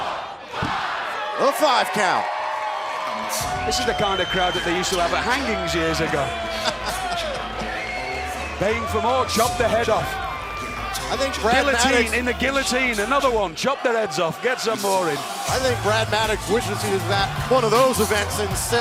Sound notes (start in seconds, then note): 8.5 crowd cheering